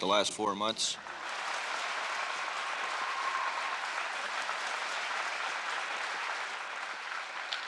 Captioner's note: applause